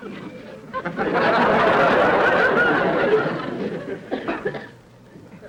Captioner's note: audience laughter